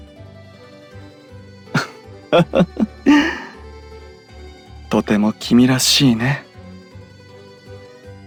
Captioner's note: laugh